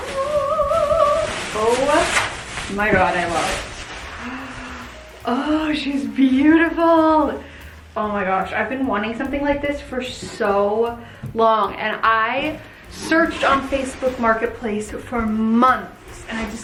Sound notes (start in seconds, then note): 0.1 sings high-pitched note; 4.2 gasps